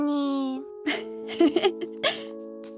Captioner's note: chuckles